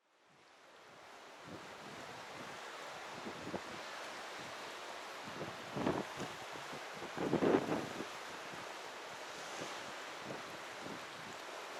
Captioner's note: surf, wind blowing